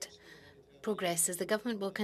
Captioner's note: speaking French